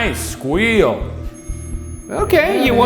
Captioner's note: REM pod screeching